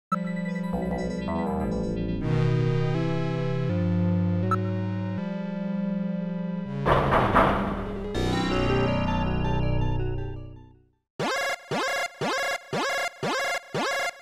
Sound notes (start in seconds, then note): 6.8 knocking